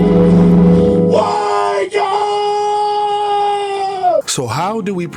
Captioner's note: yells